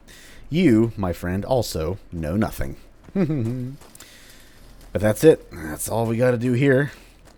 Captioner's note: sly chuckle